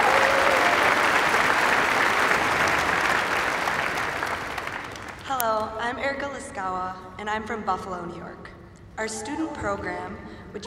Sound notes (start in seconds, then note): 0.0 cheers and applause